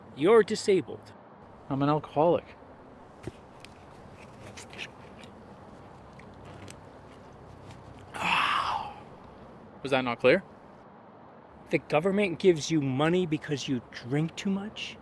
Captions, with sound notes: You're disabled. I'm an alcoholic. [Unscrews lid] Ahhh... Was that not clear? The government gives you money because you drink too much?